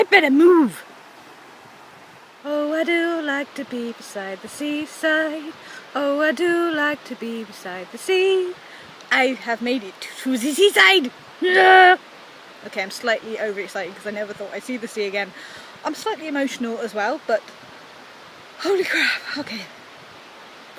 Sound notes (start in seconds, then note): 11.4 screams